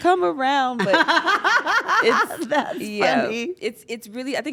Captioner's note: laugh